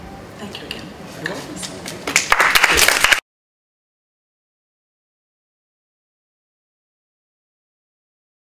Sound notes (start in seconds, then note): 2.0 applause